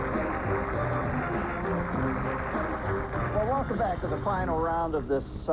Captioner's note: cheers and applause